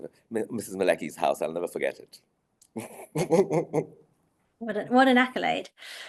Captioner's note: laughing